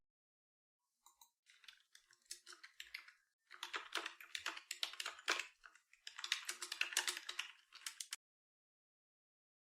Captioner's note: typing sounds